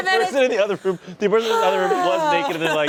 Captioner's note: all laugh; moans